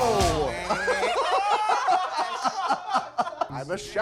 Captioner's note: all laughing